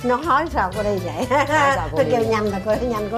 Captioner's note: laughing